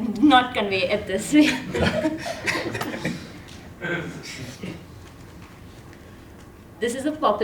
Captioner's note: laugh